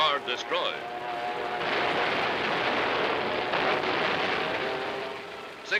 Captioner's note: explosions